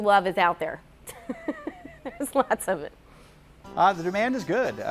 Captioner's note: laughs